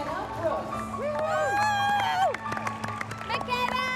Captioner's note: woman cheers wildly